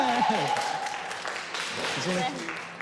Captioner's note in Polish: Aplauz